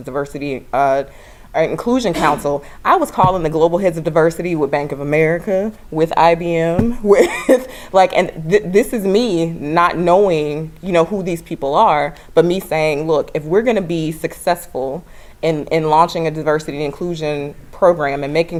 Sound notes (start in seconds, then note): 8.0 laugh